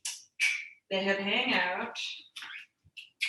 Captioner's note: tongue clicking